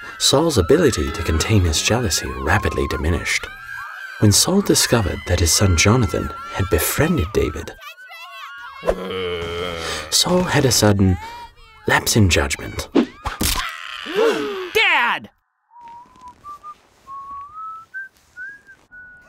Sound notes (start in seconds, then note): 8.9 Saul growling; 13.3 spear stabbing; 13.5 man screaming; 17.0 Saul whistling